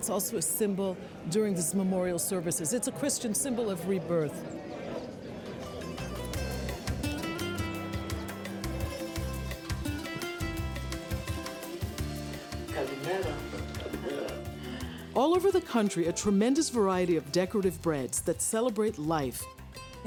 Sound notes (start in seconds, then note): 13.1 speaking greek